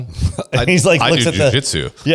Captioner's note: laughs